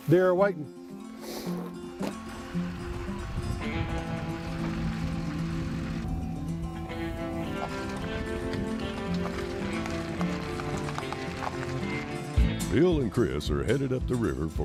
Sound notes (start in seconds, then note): 1.5 truck engine running; 6.3 car beeping; 7.8 tires squelching